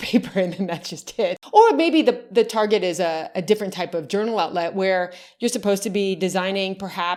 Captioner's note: laughs